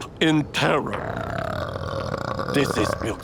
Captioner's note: burps in terror